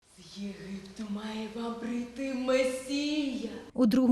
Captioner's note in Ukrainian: декламує вірш